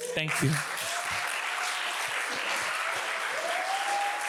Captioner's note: audience applauds